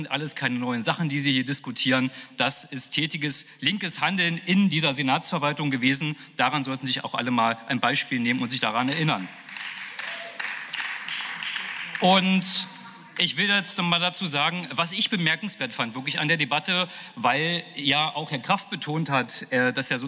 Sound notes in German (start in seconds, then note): 9.1 Beifall